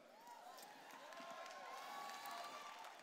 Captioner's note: applause